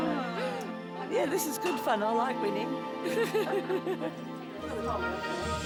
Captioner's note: inspirational music; laughs; inspirational music